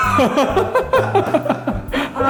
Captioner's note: laughs